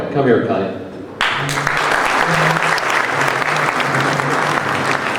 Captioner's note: crowd applauding